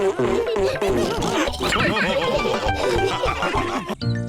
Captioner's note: all laugh